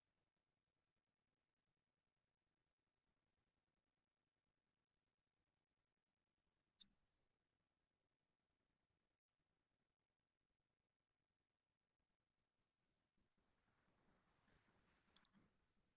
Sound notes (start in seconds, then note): 4.4 silence